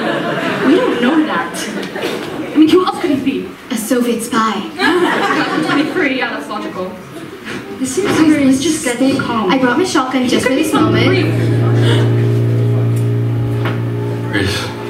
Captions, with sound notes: We don't know that! I mean, who else could he be?? A soviet spy. Yeah, in 2023, that's logical. *overlapping panic* *gasp* Grace...